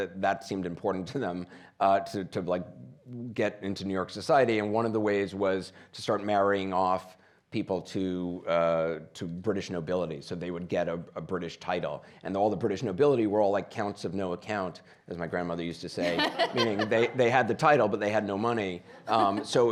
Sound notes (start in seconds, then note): 16.0 audience laughing